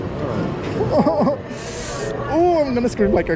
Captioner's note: laughs nervously